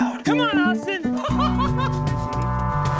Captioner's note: laughs